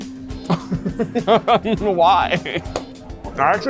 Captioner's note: laughs